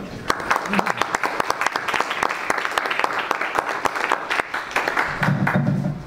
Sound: audience and panelists applaud

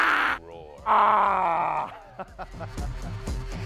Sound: roaring; laughing

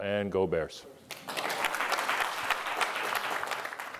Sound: applause

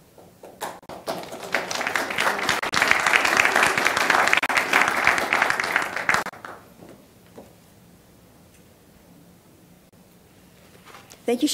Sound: applause

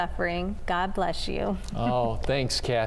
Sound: giggles

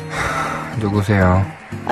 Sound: sighs

